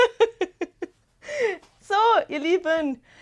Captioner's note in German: Gelächter